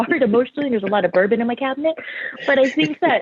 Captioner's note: laughing